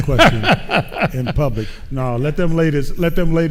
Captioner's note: laughing